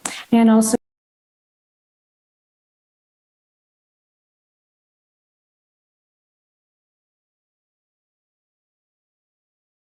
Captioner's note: audio cuts out until 42:11